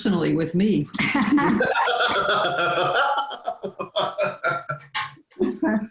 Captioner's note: laughter